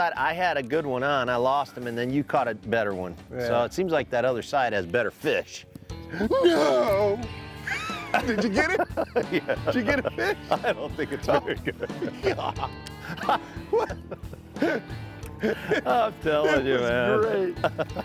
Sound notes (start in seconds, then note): 12.9 laughing